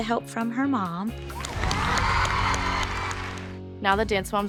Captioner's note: cheering